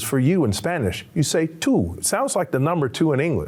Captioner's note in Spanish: Señor hablando en lengua extranjera